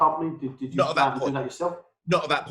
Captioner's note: murmurs